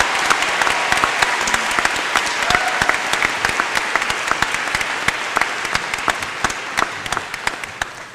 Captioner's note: applause